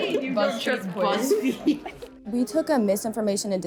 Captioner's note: students laughing; students chattering